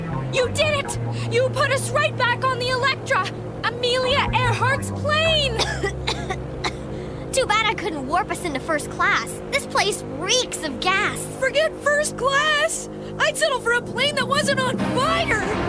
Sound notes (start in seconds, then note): 5.4 coughs